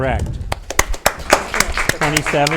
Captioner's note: audience applauds